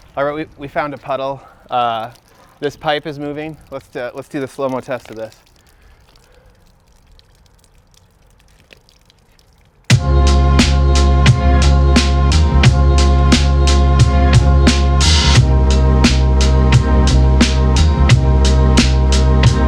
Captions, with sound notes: Alright, we found a puddle. This pipe is moving, let's do the slo-mo test of this. (water dripping) (upbeat funky music)